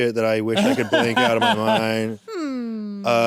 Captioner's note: laughs